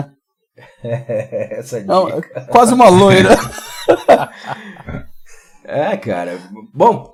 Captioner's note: laughs